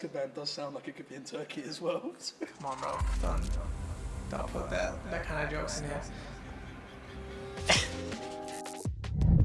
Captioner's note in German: lacht